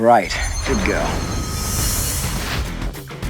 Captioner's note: shimmering; country rock music